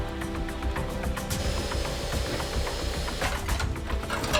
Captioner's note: vacuum whirring